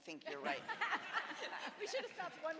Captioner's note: all laugh